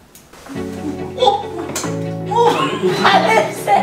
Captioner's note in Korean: 놀라는 탄성